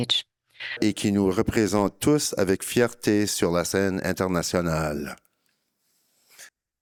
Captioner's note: speaking in French